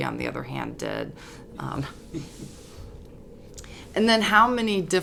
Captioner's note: laugh